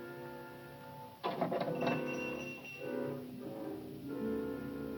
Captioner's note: doorbell rings